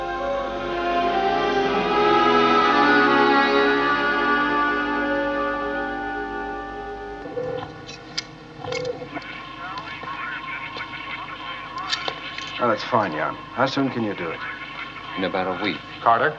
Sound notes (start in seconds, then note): 7.2 computador apitando; 7.3 rádio tagarelando